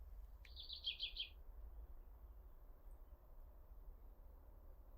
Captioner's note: birds chirping